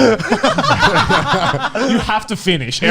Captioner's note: laughing